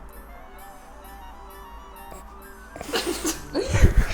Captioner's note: giggles